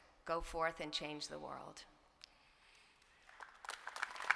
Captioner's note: applause